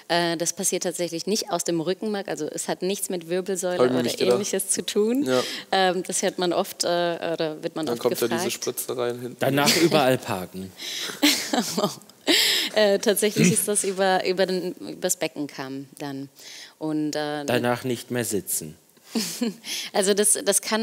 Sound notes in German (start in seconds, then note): 13.3 lacht